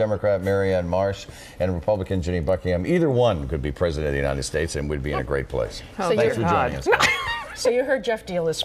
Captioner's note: laughter